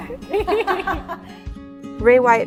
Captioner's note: laughing